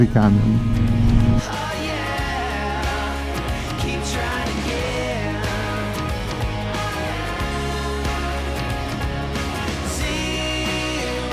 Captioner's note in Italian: Applauso